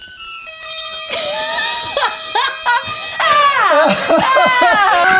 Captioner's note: laughing; screaming